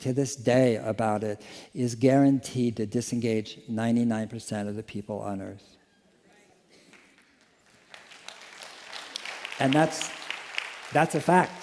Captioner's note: applause